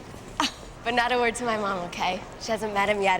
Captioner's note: chuckles